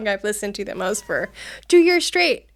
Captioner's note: cat meows